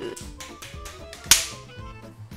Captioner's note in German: klatschen verstärkt